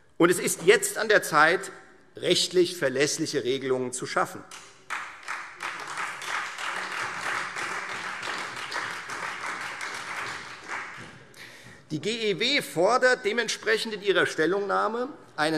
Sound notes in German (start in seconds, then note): 4.5 Beifall Freie Demokraten und vereinzelt SPD